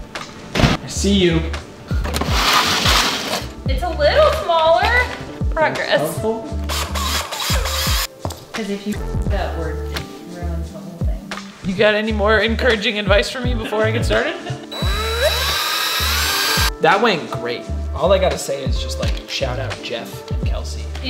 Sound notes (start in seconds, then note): 9.3 buzz; 14.7 drill whirring